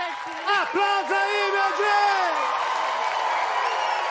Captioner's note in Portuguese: aplausos